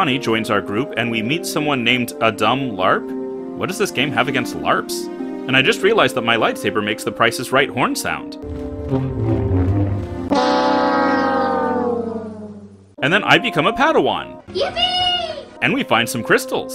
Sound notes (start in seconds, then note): 8.5 Price is Right Horn Sound